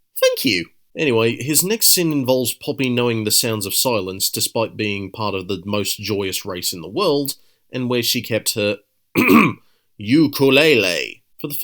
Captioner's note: ahem